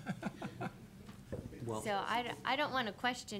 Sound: chuckling

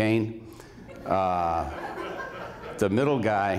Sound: laughter

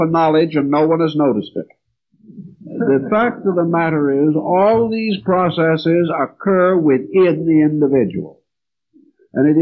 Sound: laugh

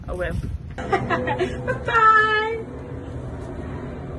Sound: giggles

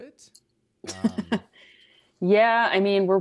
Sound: laughs

